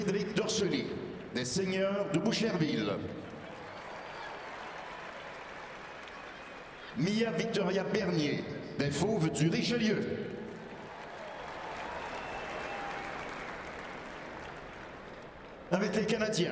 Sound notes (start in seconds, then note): 0.8 speaking French; 1.6 cheering and applause; 15.9 speaking French